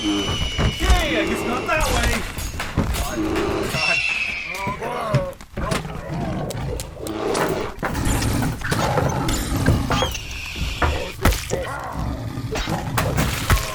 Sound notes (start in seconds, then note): 4.3 thwaps, moans, yells, chaos; 6.9 tiger roars, laser shoots; 10.8 HB language, flesh impact, roar